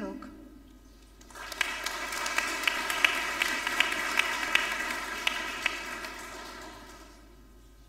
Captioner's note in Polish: oklaski